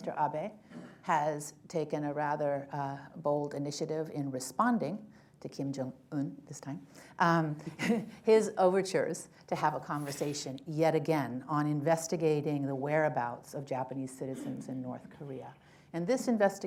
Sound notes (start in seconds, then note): 7.6 laughter